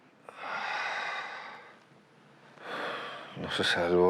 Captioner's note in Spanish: exhala